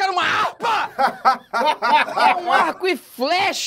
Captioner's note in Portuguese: risadas